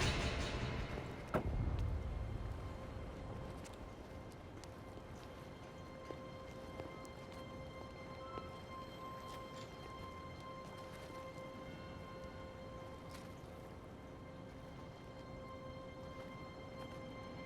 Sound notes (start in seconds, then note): 1.2 door shuts; 3.1 slow dramatic music